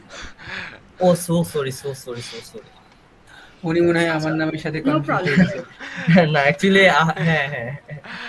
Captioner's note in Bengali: সশব্দ হাসি